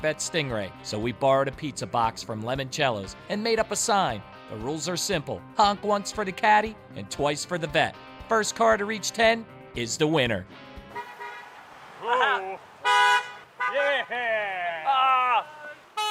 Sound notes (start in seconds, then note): 10.8 cars honking; 11.7 cheering